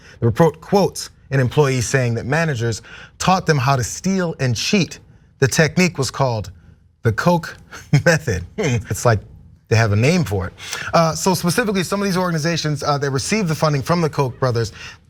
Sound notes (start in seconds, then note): 7.7 laugh